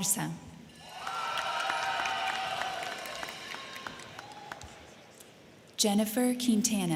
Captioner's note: crowd cheering; crowd clapping